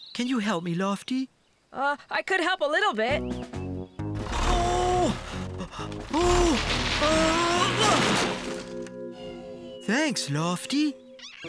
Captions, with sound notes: CAN YOU HELP ME, LOFTY? UH, I COULD HELP A LITTLE BIT. OOOH...UH...UNH! ( Crash! ) THANKS, LOFTY.